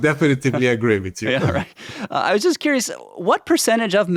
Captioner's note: laughs